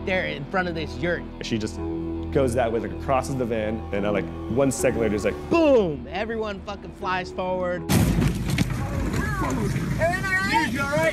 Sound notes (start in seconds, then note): 7.9 loud thud